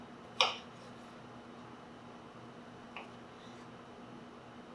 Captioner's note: knife clacking